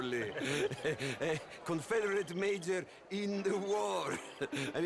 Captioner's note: laughing; laugh